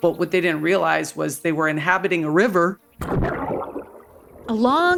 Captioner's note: water burbling